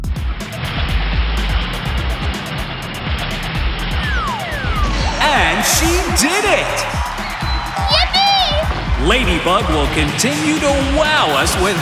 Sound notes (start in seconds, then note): 0.5 revving; 6.9 cheering